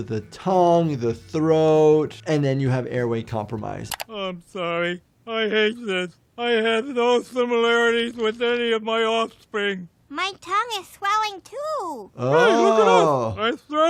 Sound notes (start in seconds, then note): 3.9 window clicks into view